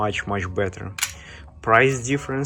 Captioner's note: lug clinks